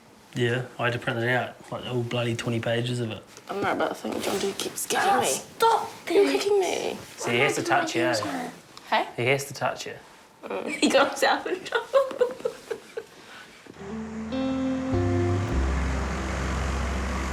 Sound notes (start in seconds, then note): 10.5 laughs, speaks indistinctly; 13.8 gentle music